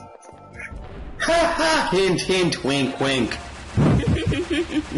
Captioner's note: laughs